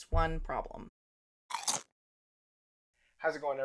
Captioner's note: crunch